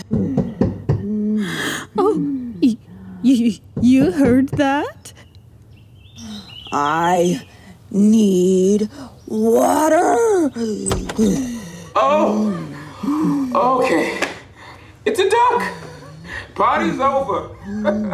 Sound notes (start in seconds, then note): 0.3 door knocks; 1.4 gasps